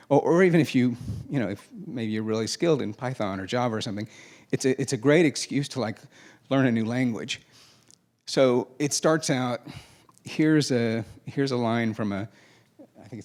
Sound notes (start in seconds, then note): none